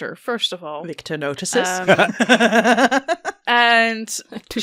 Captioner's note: laughter